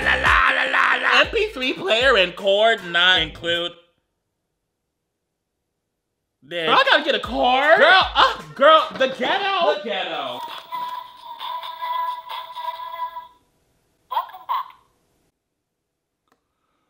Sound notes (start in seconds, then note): 10.4 diary click and sings